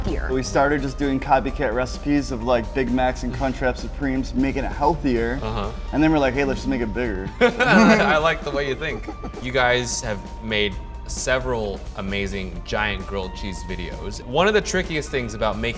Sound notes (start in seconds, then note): 7.4 laughing